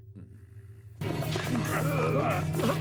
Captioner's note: growling